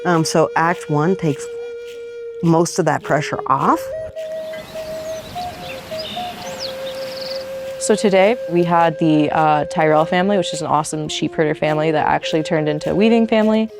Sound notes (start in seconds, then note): 3.3 birds singing